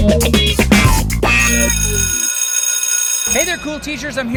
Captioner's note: school bell rings